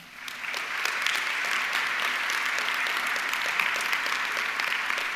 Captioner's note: audience clapping